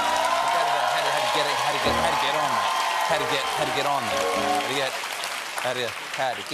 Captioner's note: cheers and applause